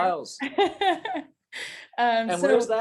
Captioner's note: laughs